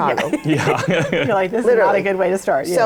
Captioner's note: laughter